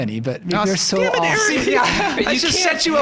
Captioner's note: all laughing